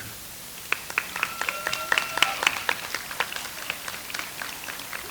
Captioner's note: audience applauds